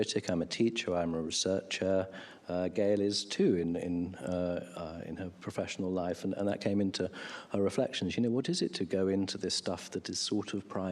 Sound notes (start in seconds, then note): none